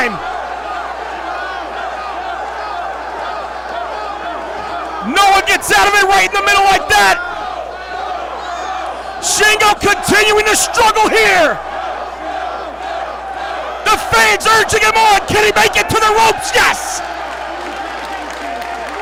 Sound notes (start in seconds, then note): 1.3 applause